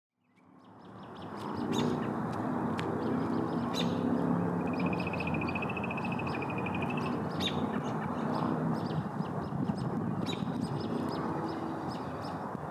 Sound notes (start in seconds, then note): 1.2 birds calling